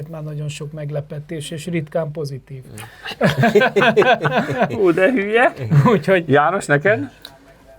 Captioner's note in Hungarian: nevetés